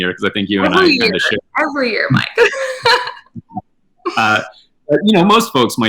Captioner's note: laughing